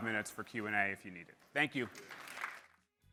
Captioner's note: applause